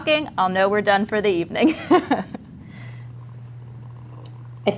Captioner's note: chuckles